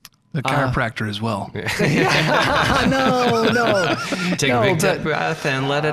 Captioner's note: all laughing